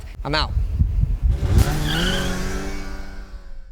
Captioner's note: engine revving